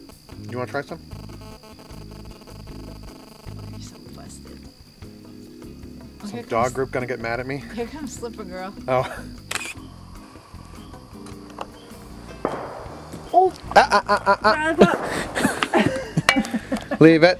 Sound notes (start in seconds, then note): 14.3 exclamation; 15.6 laughter